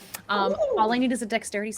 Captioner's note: whoops